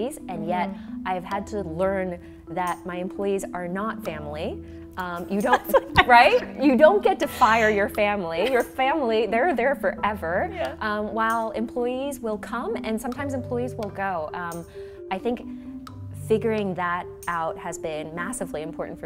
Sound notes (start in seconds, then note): 7.2 laughs